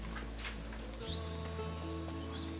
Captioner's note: bird chirps